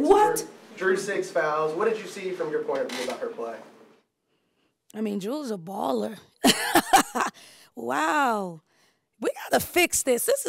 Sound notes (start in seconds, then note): 6.4 laughs